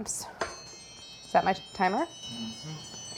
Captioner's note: timer rings